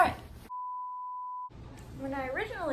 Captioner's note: beep